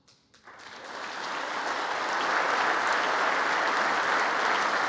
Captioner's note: congress applauding